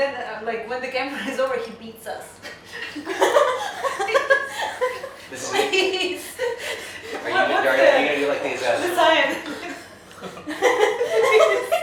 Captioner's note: laughing